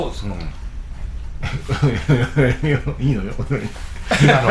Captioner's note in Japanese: 笑い